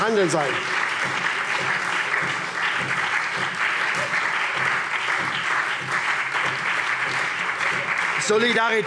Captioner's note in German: Anhaltender lebhafter Beifall SPD